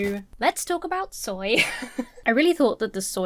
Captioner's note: chuckles